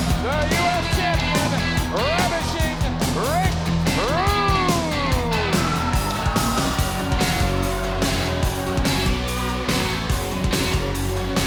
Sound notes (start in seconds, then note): 5.8 crowd cheering